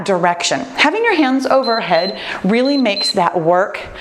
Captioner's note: timer beeps